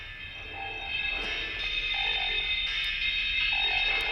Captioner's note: applause